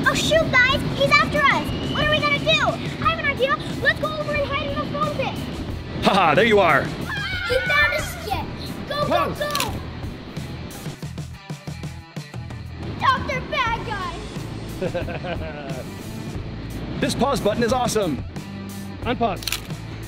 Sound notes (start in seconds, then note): 6.1 laughs; 14.7 Dr. Mad Scientist laughing